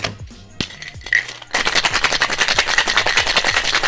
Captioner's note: ice shaking